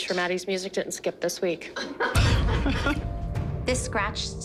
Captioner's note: laughter